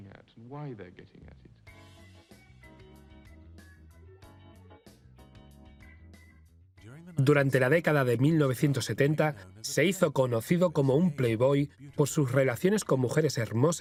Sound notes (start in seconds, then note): 2.0 upbeat music; 5.9 voiceover